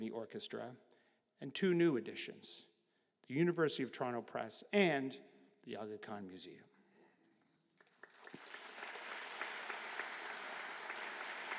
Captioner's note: applause